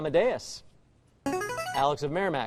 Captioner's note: buzzer